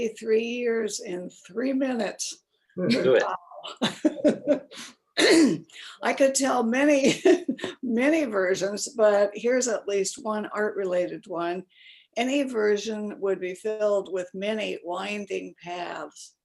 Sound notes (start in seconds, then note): 6.3 laughs